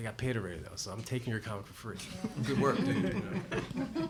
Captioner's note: laughter